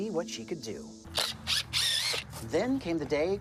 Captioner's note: tool whirring